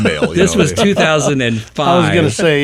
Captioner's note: person laughing